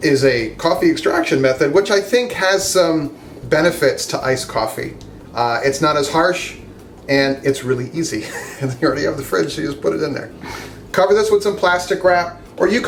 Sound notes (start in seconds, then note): 8.2 laughs